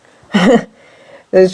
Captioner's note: laughs